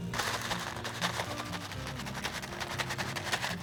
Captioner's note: paper rustling